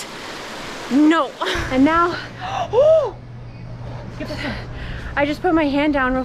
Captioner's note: gasp in pain